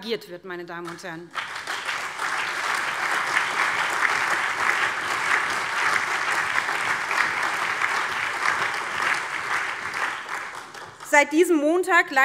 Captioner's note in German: Allgemeiner Beifall